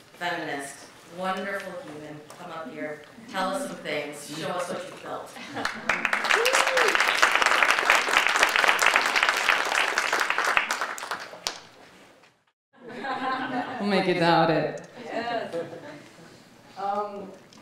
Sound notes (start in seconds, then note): 5.6 audience cheering and applauding; 12.8 audience laughing